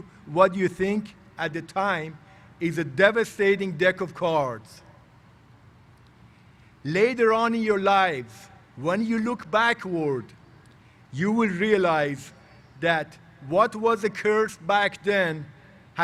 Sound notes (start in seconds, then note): none